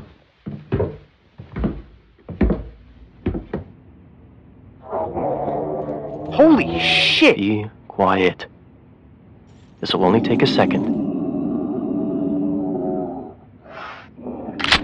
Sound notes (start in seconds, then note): 0.0 foosteps going down stairs; 4.8 unknown animal groans; 14.6 pistol cocking